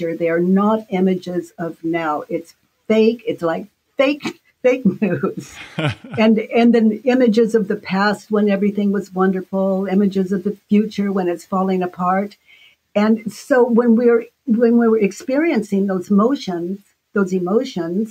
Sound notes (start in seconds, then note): 5.1 laughing